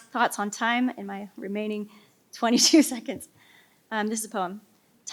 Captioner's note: laughs